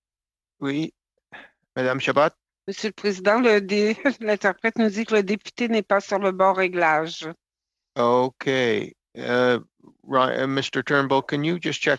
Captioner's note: speaking French